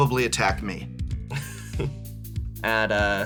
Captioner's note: chuckles